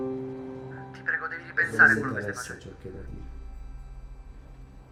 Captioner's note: Ian on phone